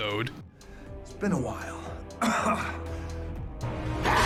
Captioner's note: coughs